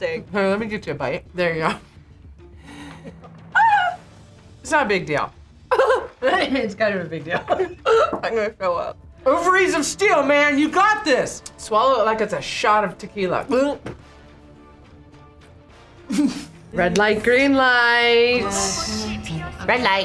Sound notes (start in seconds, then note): 5.7 laughs; 15.7 gulps